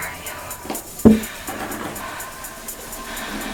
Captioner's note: tapping